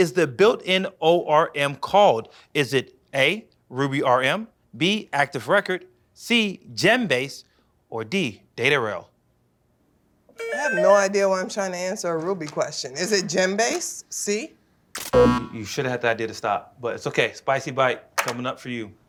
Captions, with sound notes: I have no idea why I'm trying to answer a Ruby question. Is it Gembase? C? [buzzer] You should have had the idea to stop, but it's okay. Spicy bite coming up for you.